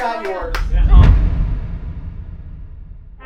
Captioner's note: clapping; audio hit